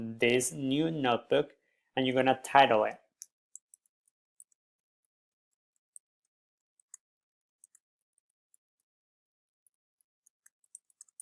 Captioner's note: typing